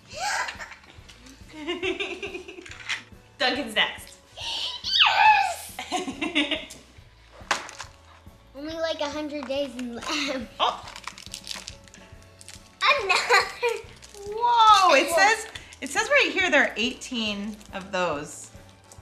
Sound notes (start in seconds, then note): 1.4 laughing; 5.6 giggling; 7.4 objects hitting; 10.6 papers crumbling